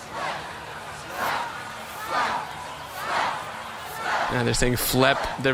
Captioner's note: audience chanting changes to ‘Flep’